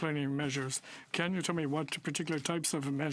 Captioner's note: speaking French